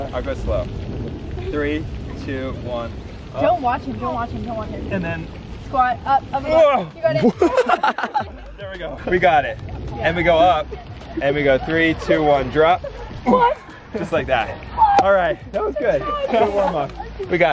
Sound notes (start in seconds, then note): 8.7 laughs; 15.0 claps